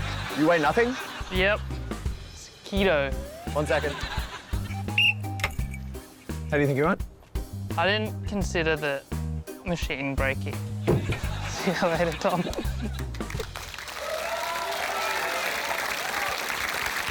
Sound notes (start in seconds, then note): 4.7 blows whistle; 12.0 applause